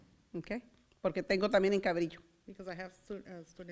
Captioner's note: foreign language